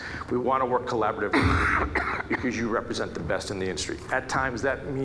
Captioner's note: coughing